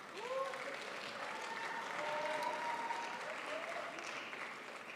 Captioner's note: crowd applauds